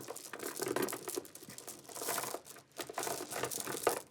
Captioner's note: beads rattle